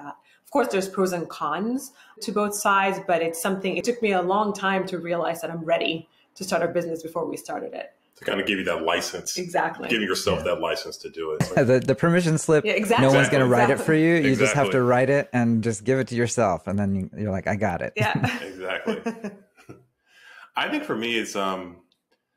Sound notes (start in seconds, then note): 18.0 laughs